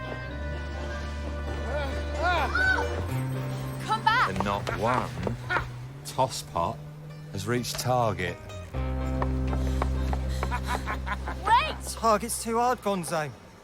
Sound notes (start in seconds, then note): 9.1 panting; 9.9 laughs